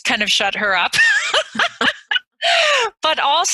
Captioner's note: both laugh